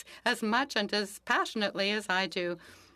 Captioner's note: speaking French